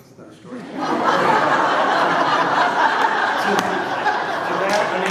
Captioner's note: laughter